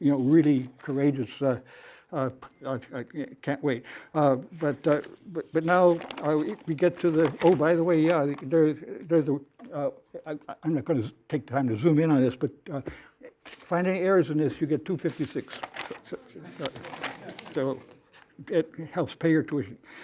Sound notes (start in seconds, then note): 15.8 laughter